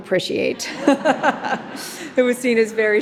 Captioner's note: audience laughing